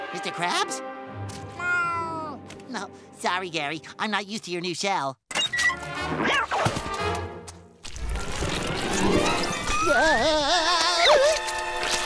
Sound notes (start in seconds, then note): 5.3 door creaks